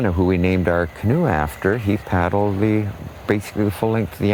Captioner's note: wind blowing